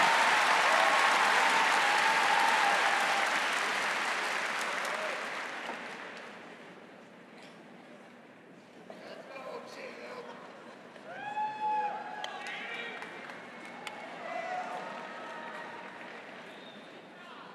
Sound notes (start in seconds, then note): 4.9 applause